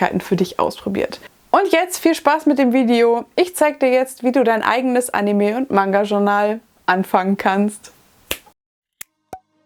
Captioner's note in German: schnips